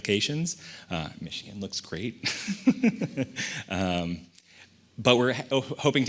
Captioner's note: laughs